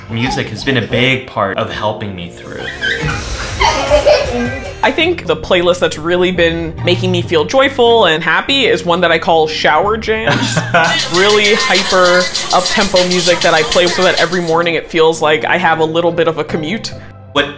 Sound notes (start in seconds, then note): 3.5 little girl laughs; 10.6 laughing